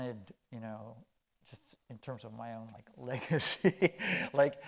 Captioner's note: chuckling